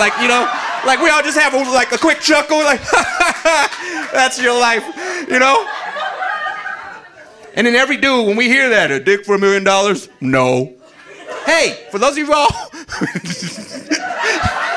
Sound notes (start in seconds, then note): 6.6 audience laughing; 10.8 audience laughing; 12.4 laughs